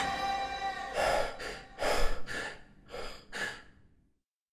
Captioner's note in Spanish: respiración agitada